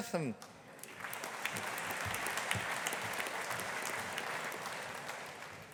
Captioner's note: audience applauding